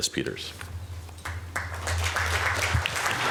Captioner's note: applause